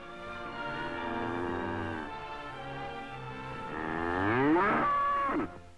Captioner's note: cow mooing